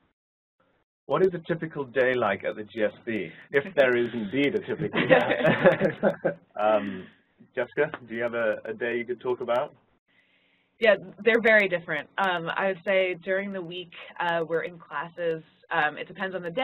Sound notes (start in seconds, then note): 3.6 laugh